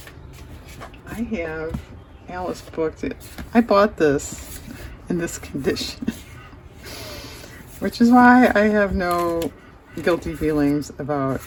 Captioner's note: laughs